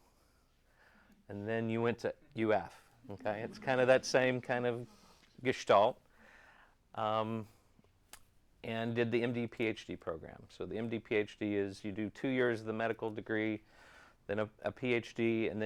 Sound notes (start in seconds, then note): 3.1 audience chuckles